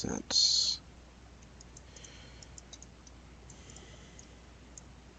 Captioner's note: mouse clicking